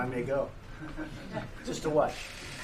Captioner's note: laughter